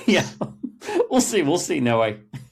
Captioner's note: laughs